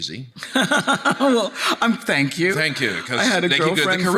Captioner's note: laughs